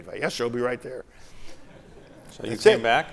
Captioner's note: laughter